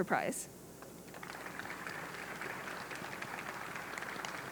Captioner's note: audience clapping